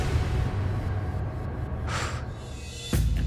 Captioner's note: exhales